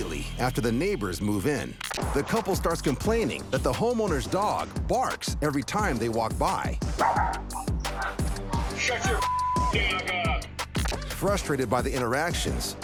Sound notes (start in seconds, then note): 7.0 dog barks